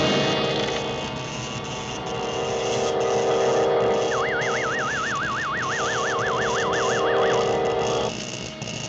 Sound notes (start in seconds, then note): 4.5 machine whines